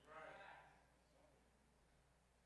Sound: crowd

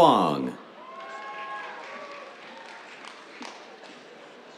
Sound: cheers, applause

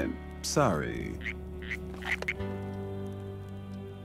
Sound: phone croaks froggily

